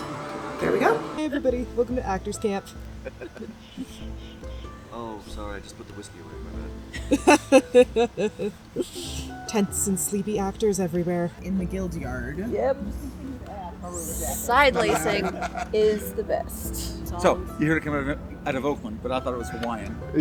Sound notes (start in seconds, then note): 6.9 laughs